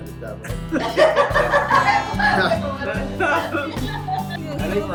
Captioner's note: laughter